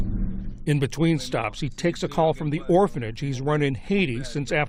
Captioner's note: voice-over